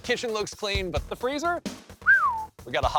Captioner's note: whistling